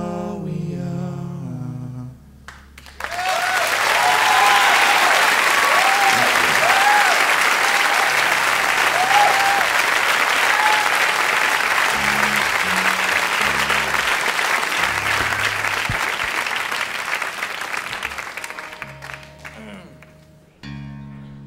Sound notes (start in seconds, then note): 2.6 audience applauding; 2.6 audience cheering; 18.0 acoustic guitar strums